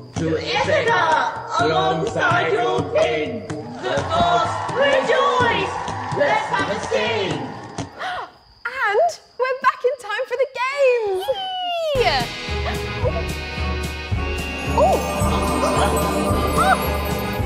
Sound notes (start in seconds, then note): 11.9 magic sound; 13.2 song music begins